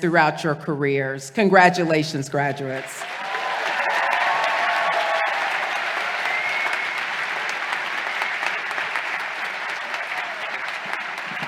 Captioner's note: applause